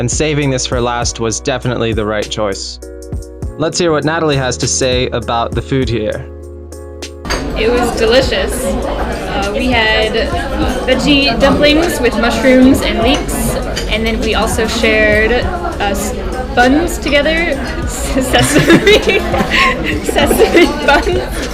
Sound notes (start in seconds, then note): 18.1 haha